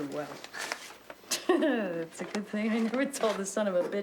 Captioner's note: laughs